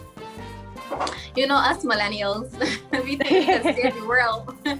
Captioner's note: both laugh